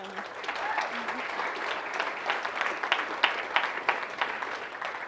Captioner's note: audience applauding